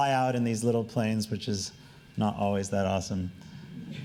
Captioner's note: laughing